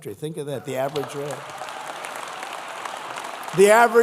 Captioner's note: applause